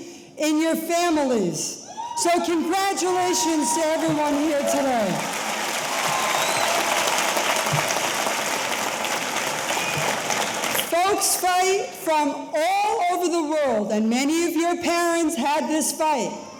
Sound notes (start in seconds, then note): 5.3 audience applauding; 5.3 audience cheering